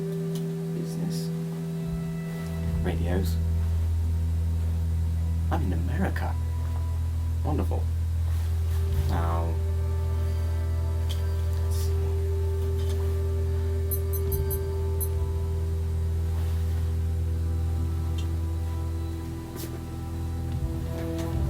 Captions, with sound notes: Business... radios. I'm in America. Wonderful. Now... let's see. (Beeping)